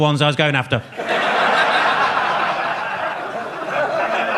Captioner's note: audience laughs